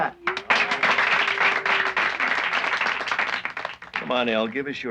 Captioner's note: applauding